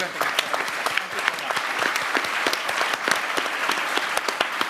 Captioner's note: everyone applauds